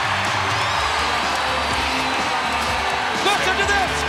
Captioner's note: audience cheers